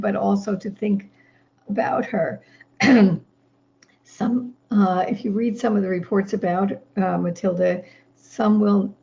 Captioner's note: clears throat